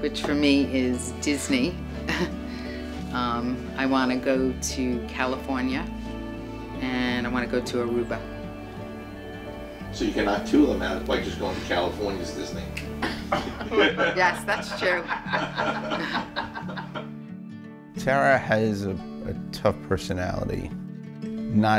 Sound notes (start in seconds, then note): 2.0 laughs; 13.0 laughing; 16.8 mellow music continues